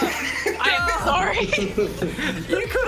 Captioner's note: laughs